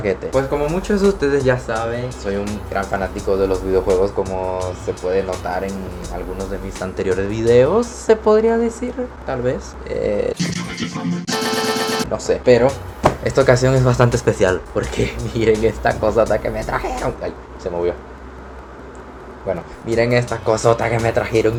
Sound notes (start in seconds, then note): 13.0 table slam